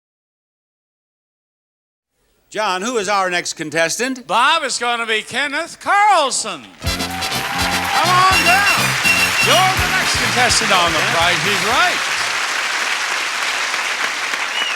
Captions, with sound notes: John, who is our next contestant? - Bob, it's going to be Kenneth Carlson! (audience cheers) (upbeat music) Come on down! You're the next contestant on "The Price is Right!" (audience applauds)